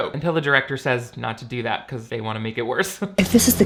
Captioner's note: laughs